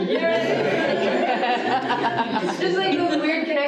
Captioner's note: audience laughing